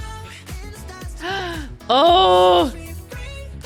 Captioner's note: gasps